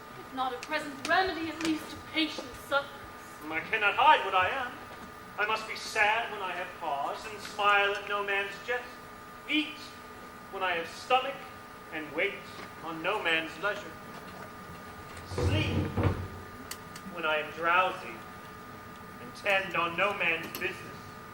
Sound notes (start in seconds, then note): none